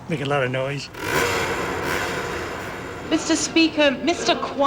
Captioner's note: motorcycle engine revving